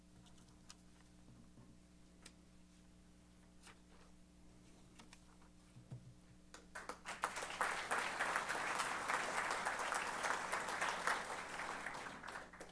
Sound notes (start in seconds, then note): 6.6 applause